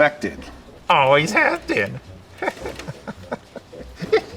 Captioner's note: chuckles